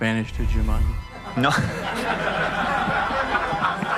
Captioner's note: laughs